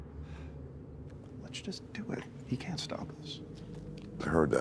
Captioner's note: sighs